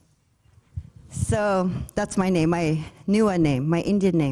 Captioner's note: speaking foreign language; speaking foreign language